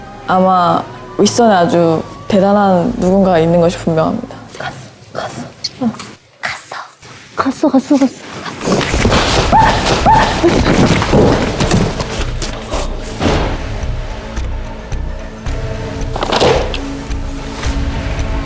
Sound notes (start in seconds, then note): 6.3 whispers; 16.2 slam